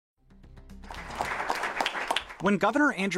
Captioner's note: applause